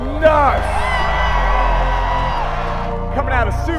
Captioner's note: crowd cheering